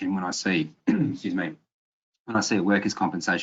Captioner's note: clears throat